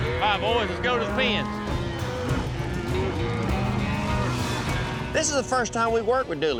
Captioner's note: cattle mooing